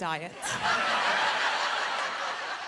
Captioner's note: laughter